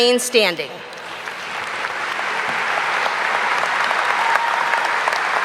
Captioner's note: audience applauding